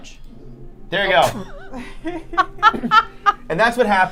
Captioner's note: triumphant laughter